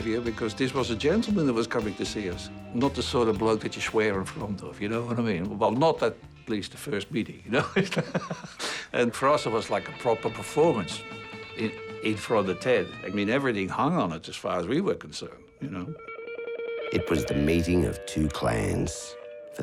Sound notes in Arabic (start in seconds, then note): 7.6 يضحك